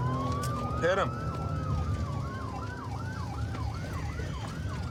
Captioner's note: sirens wailing